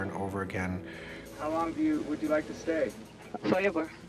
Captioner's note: voiceover